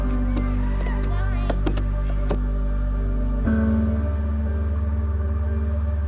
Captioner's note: children chattering; pensive music continues